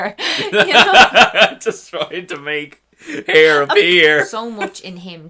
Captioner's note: laughs